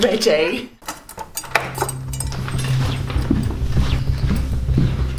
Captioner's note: hotel keys jingling